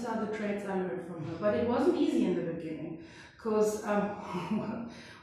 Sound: laughs

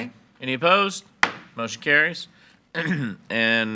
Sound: gavel bangs

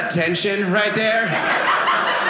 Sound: audience laughing

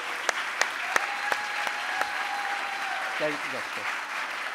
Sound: audience cheering and applauding

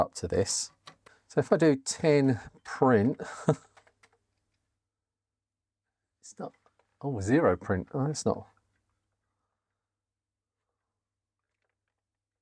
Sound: chuckles

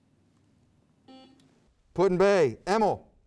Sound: buzzer beeps

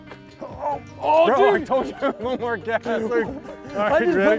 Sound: laughs

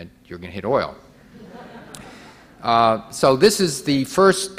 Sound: audience laughing

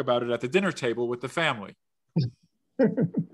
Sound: laughs

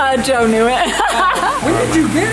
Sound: laughing

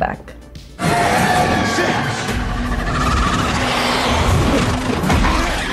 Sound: creature screeching

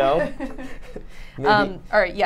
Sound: laughs

